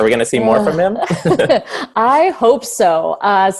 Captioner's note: laughs